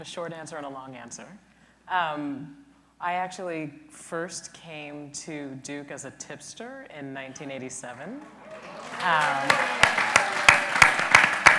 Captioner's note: applause